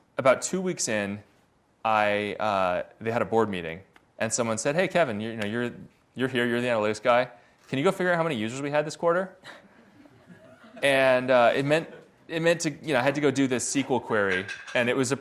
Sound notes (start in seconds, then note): 9.5 audience laughs